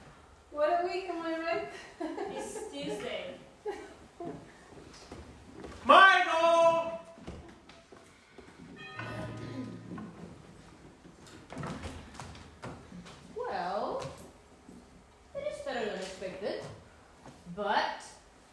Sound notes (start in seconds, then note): 8.8 door bell rings